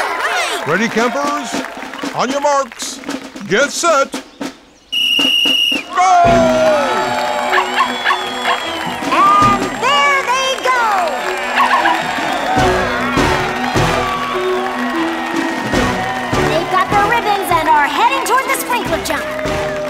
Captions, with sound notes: Ready campers? On your marks, get set... [blows whistle] Go! [barking] And there they go! They've got the ribbons and are heading toward the sprinkler jump.